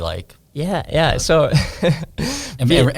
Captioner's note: laughs